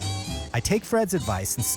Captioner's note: voiceover